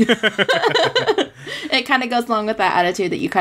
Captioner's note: laughs